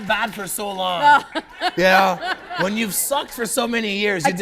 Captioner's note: laughter